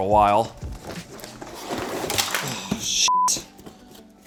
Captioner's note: cords falling